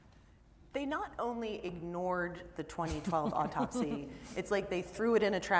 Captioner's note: laughter